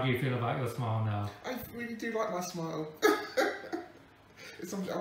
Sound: laughs

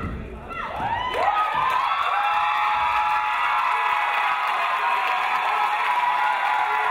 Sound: crowd cheering; crowd applauding

